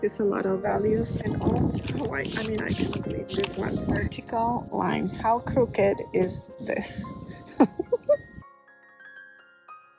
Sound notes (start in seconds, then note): 7.5 giggles